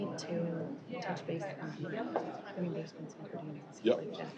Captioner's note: indistinct chatter